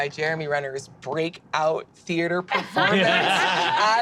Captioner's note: group laughs